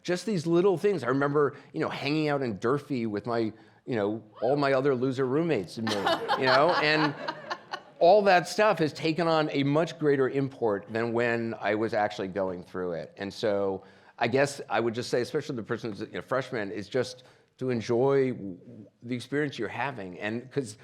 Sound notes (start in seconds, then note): 5.8 audience laughing